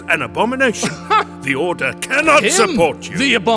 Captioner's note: laughs